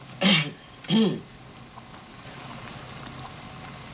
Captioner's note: slight coughs